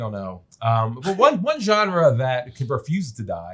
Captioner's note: chuckles